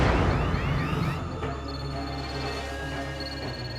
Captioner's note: phone ringing